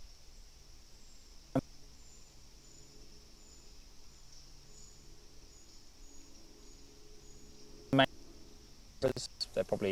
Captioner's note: break in transmission